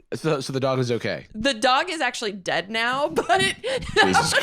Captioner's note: laughs